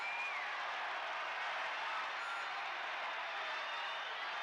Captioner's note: crowd cheering